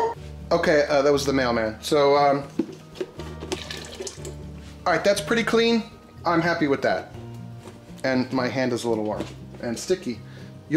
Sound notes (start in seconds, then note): 3.0 fluid falling